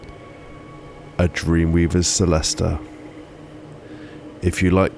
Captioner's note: exhale; inhale